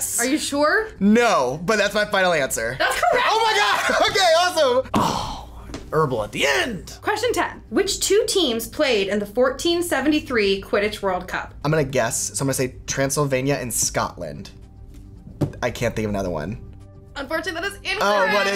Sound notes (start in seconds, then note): 4.9 groaning